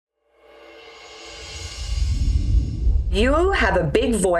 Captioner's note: air whooshing